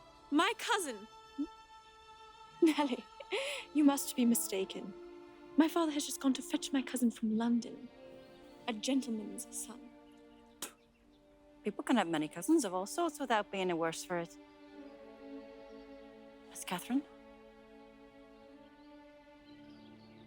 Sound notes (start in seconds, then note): 10.6 spitting; 17.7 soft music